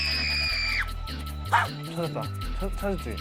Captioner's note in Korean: 갑자기 들려오는 날카로운 비명